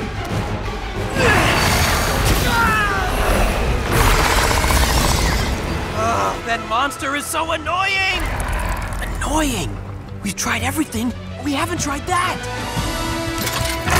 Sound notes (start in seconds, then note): 1.1 Lloyd grunting, groans